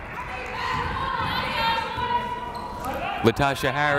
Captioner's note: yelling